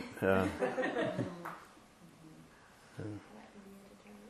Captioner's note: laughter